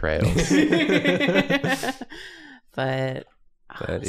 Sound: laughter

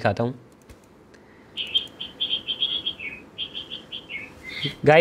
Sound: chirping

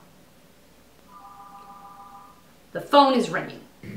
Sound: phone rings

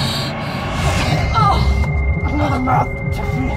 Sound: pulsing noises

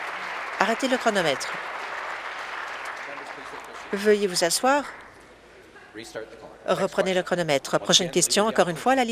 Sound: applause

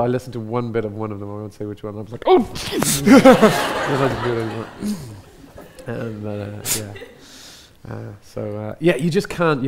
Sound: audience laughs

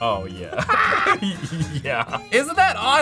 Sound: laughs

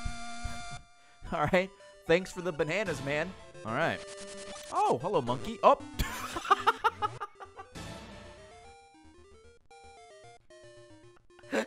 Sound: laughs

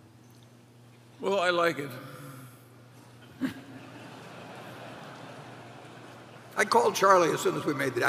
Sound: laughter

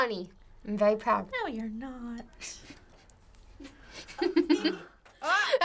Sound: snickers

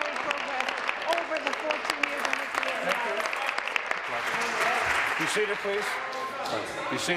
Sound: applause

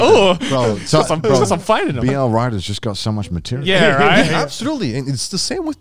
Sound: group chattering

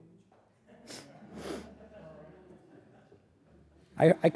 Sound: audience laughing

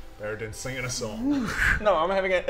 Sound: whoosh

